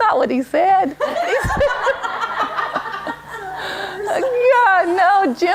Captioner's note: laughter